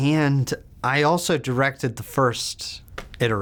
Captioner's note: none